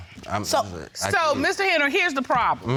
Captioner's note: stuttering